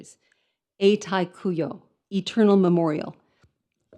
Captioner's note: speaks in foreign language